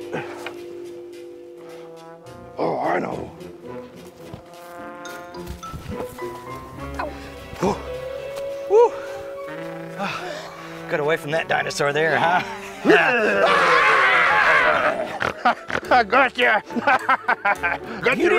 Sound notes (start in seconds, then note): 12.2 laughs; 12.9 screams